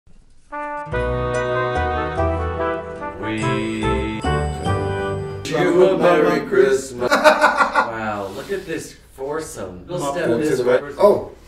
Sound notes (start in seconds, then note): 0.4 instrumental music; 7.0 laughing